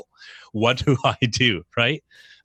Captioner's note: laughs